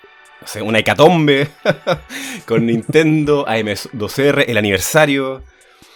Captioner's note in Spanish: risas